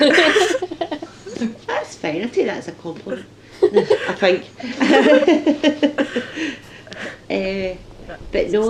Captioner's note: laughter; laughter